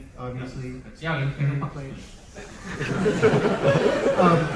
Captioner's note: something in another language